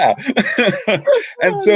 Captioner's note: laughing